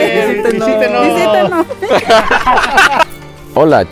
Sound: laughs

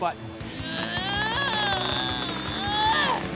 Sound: whining

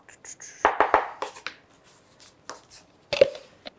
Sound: taps wood

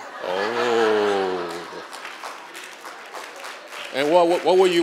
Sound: applause

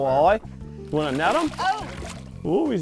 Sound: splashing

